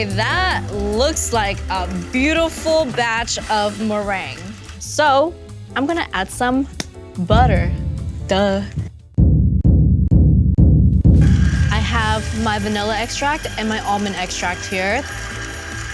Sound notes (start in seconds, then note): 6.7 hand slaps; 9.3 drums tapping